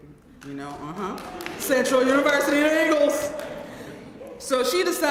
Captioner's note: applause